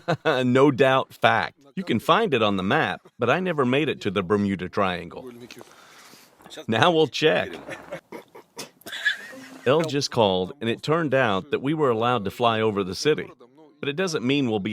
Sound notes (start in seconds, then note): 7.4 laughing